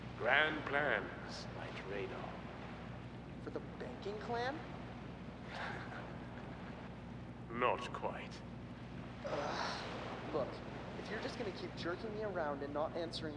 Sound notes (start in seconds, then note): 8.4 chuckles